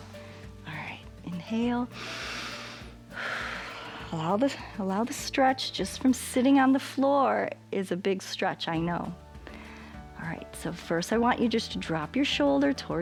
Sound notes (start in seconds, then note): 1.9 inhales and exhales